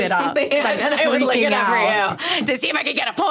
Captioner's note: laughing